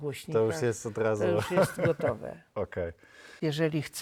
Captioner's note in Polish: śmiech